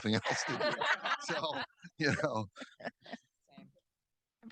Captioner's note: audience laughing